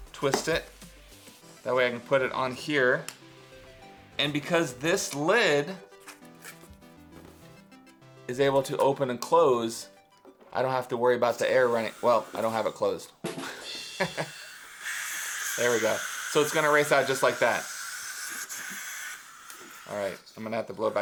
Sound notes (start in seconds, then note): 14.0 laughing